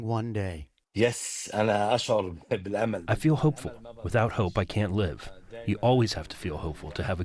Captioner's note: through translator